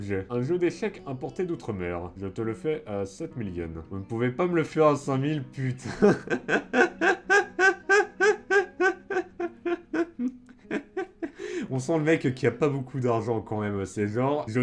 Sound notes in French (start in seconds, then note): 8.9 Rires